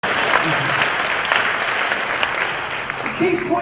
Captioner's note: applause